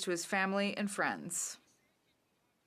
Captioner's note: speaking French